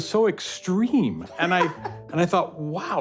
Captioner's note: laughter